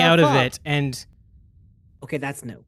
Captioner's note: silence